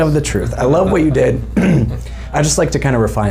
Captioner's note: clearing throat